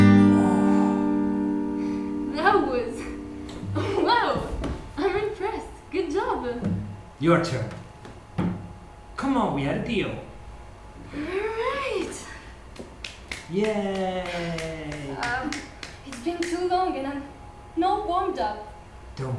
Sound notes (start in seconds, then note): 12.7 claps